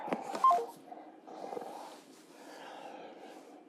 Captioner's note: phone beeps